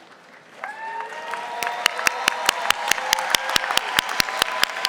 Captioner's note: audience applauding